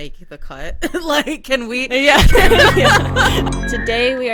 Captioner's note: everyone laughs